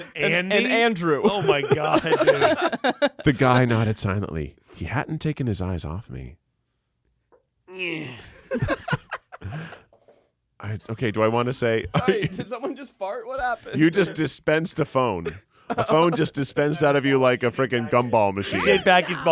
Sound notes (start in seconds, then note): 7.7 grunts; 8.4 everyone laughs